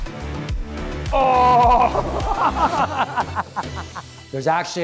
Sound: laughs

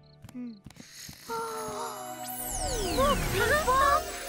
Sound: both gasping

